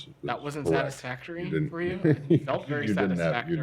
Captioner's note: laughter